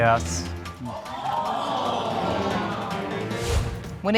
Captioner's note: audience exclaim